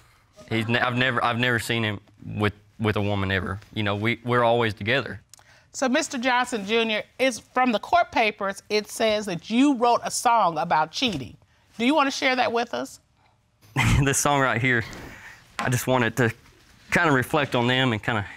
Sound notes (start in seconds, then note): 13.7 laughs